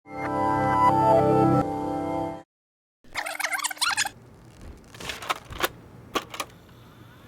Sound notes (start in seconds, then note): 3.1 tape rewinding